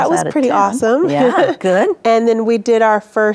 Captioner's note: chuckling